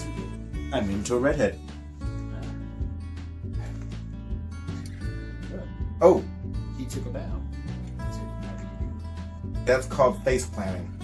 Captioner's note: sigh